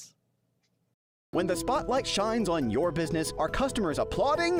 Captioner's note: voiceover